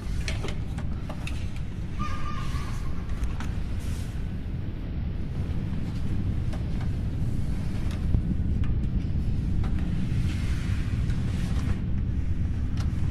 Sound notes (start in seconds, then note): 2.0 child laughing